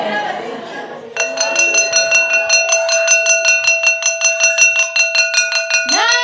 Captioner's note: crowd noise; bell ringing